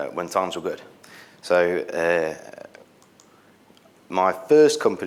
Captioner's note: mouse clicks